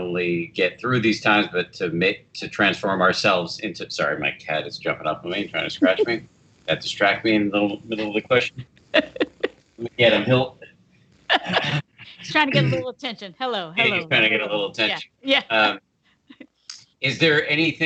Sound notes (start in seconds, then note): 9.4 laughing